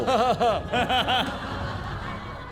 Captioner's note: laughing